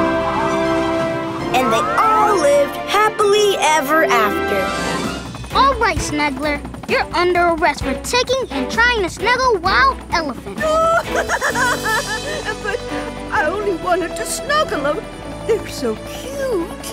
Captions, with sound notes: And they all lived happily ever after. Alright Snuggler, you're under arrest for taking and trying to snuggle wild elephants. [crying] But I only wanted to snuggle ‘em. They're so cute.